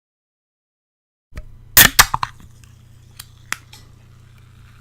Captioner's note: sound of a can of beer opening